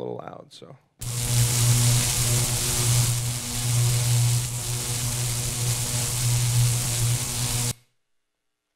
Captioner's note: electricity buzzing